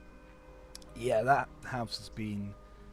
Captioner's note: none